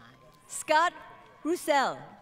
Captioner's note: crowd Cheering & Applause